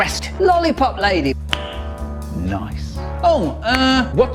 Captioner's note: click